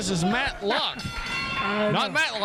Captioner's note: bell rings